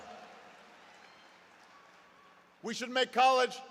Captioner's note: applause